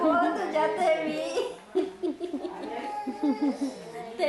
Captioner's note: camerawoman laughs